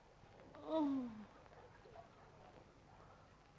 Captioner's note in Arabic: أنين